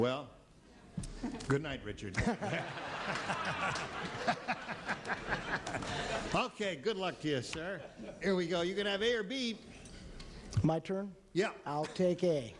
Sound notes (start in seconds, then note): 2.2 laughs